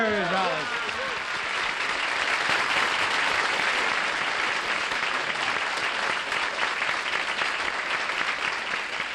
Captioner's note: applause